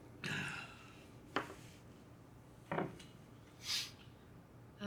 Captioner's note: Shelly sighing